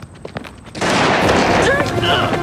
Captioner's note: booming; menacing music